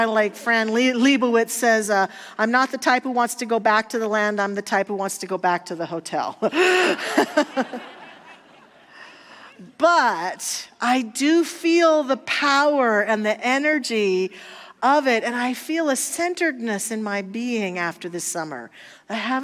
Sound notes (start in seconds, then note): 6.9 audience laughter